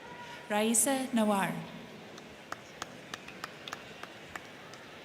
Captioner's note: crowd chattering